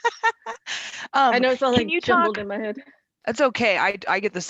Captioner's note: laughs